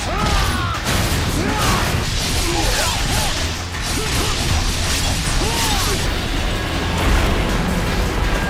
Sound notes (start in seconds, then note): 2.3 grunting while fighting